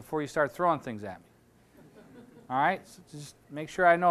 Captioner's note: audience laughing